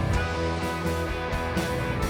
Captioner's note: none